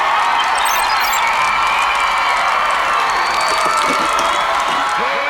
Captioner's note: cheering